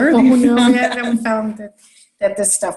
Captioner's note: laughs